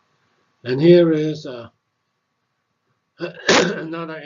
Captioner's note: cough